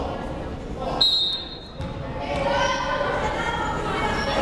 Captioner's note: whistle blows